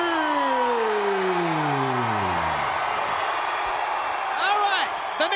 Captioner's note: crowd cheering